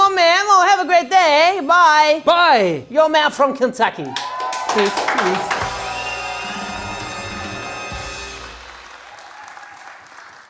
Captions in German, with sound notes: I don't know, man, well, have a great day, bye! Bye! - You are a man from Kentucky. Tschüss! - Tschüss! (Jubel)